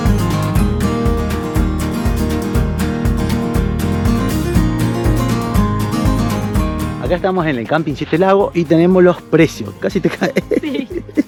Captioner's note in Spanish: risas